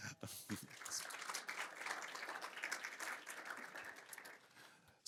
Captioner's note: applause